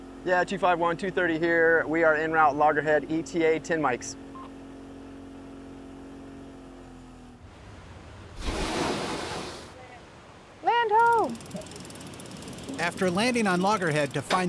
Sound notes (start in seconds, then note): 7.4 boat splashes onto shore